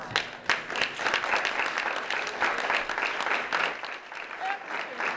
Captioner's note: applause